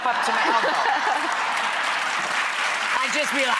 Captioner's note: audience laughs and applauds